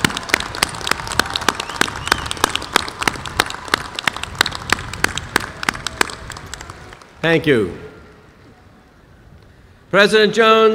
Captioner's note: applause